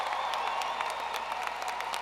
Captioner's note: applause; cheers and applause